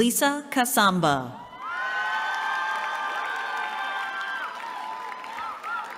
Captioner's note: cheering